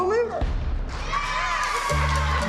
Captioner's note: cheers and applause